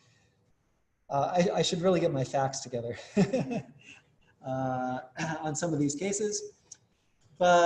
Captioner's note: laugh